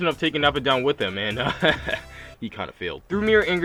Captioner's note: chuckles